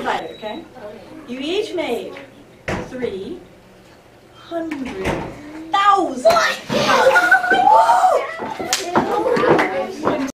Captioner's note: students cheering